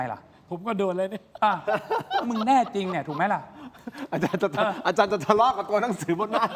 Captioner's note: laughs